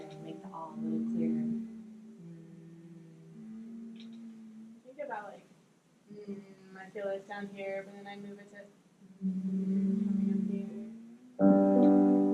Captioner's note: humming